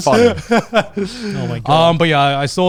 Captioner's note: laughing